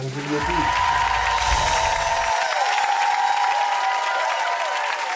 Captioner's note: audience cheering